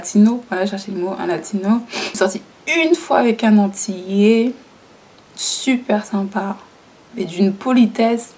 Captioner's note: french